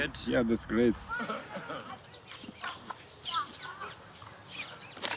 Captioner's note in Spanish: charla confusa